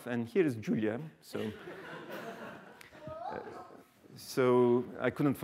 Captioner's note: laughter